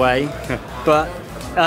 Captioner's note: Chris laughs